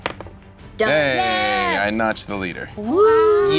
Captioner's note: cheering